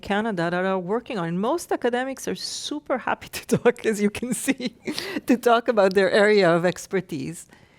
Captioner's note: laughs